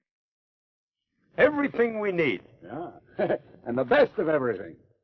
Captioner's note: chuckles